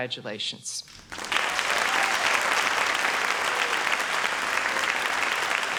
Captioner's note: audience applauds